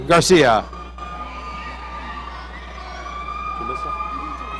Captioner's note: audience cheering